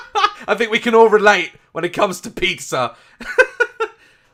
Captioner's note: laugh